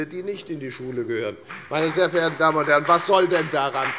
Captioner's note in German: Beifall bei der FDP